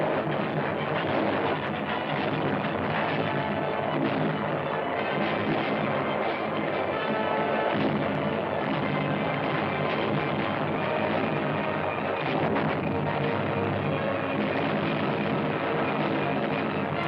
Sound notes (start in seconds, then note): 2.2 loud explosions